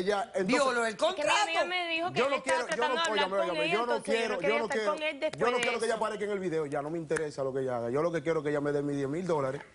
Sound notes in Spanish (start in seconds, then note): 2.7 Hablan al unísono